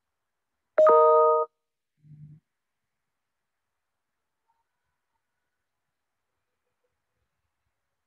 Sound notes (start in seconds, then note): 0.8 computer notification rings